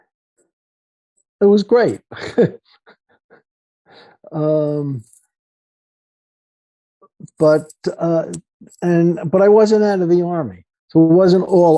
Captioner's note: laughter